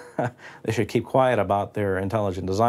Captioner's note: laughs